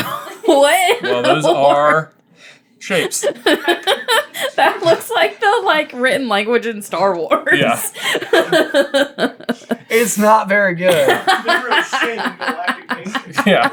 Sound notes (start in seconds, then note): 0.8 cracking up; 2.9 laughing; 7.4 still cracking up